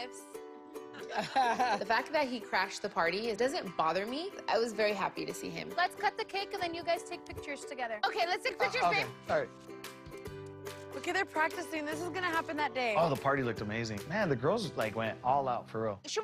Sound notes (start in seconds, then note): 0.9 lorenzo laughs